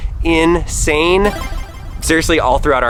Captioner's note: power up sound